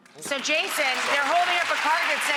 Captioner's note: audience clapping